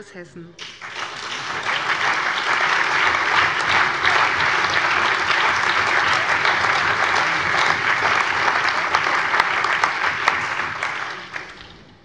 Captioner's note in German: Lebhafter allgemeiner Beifall